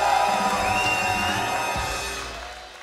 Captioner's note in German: Pfiffe